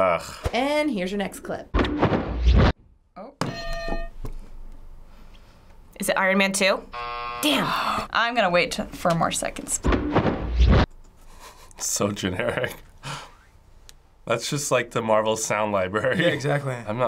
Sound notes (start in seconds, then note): 1.7 flapping; 3.5 hitting bell; 6.9 buzzer; 9.7 flapping; 11.3 chuckles